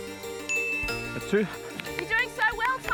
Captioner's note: ding!